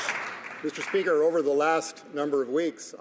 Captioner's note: some Applause